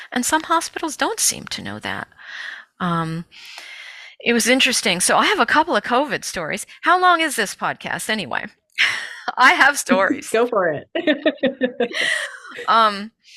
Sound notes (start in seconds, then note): 9.9 chuckles; 10.9 laughs